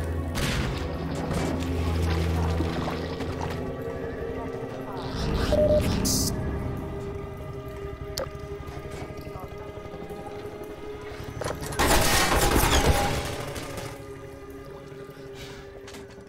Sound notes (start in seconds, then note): 0.2 explosion; 2.9 Barnacles squelching; 5.5 HEV suit beeps; 11.3 door squeaks; 11.7 gunshots